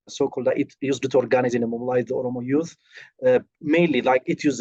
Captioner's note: speaking foreign language